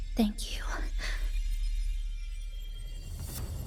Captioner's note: sigh